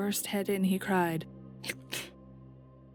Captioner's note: troll sneeze